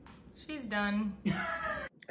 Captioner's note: laughs